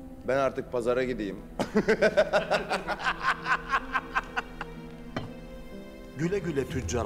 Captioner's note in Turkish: Gülme sesleri